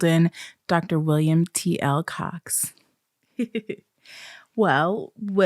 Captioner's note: giggles